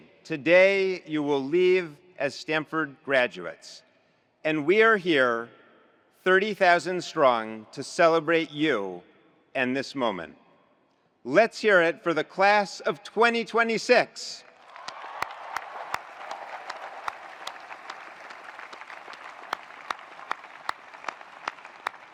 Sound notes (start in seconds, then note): 14.5 attendees applauding; 14.6 attendees cheering